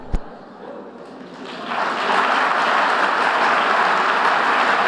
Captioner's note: audience applauding